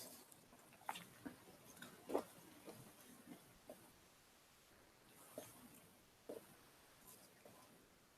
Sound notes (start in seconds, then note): 1.2 sound of eating blueberries